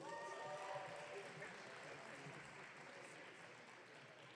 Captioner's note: audience cheering